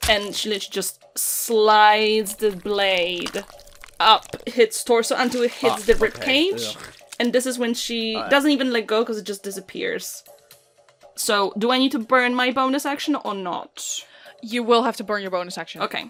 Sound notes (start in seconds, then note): 2.3 wet, meaty thunk; 6.0 squishy, meaty, tearing